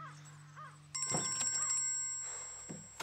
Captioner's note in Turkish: Telefon çalıyor